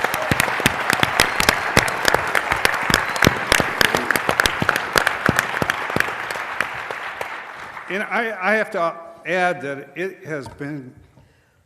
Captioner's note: applause